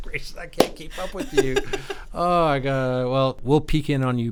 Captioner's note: laughing